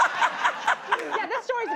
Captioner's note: laughter